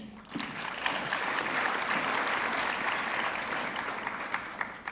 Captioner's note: audience clapping